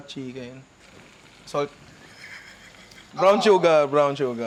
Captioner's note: wheezes